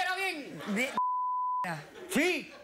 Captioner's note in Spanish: risas